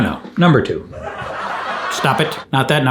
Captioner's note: laughing soundtrack plays